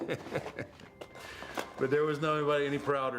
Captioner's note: Undertaker chuckles